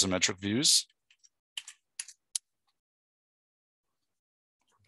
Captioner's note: mouse clicking